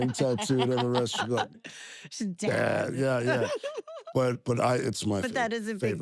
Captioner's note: laugh